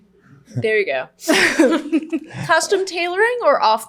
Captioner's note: laughing